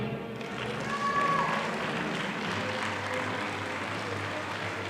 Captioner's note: audience applauding